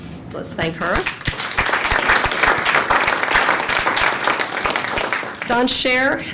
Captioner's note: applause